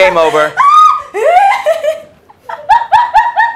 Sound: laughing

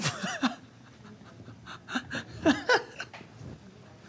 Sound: Brooklyn laughs

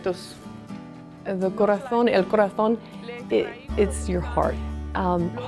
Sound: speaking foreign language

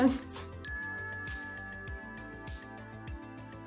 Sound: bell dings

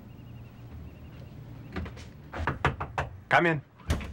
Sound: knocking

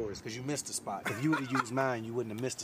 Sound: Jay laughs

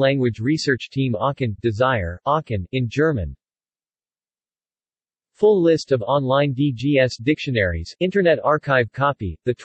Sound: in German

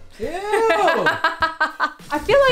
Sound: dramatic music; laughing

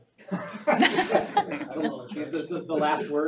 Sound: all laughing

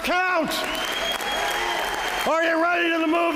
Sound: applause

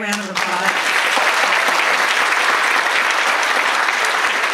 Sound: audience applauds

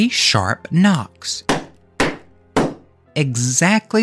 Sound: knocks

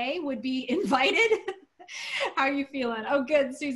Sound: laughter

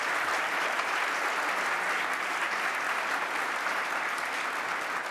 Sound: audience applause

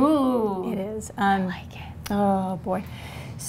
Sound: whispering

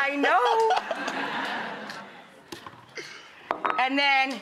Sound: crowd laughs

